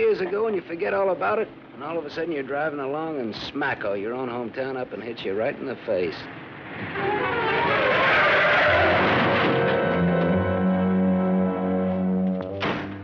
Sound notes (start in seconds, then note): 6.3 tires screeching; 8.8 crash